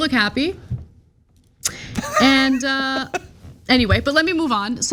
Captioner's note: laugh